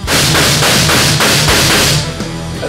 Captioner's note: gunshots